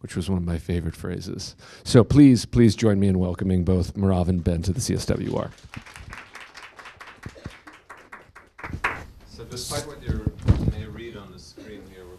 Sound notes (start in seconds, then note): 4.3 applause